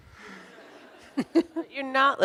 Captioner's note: audience laughs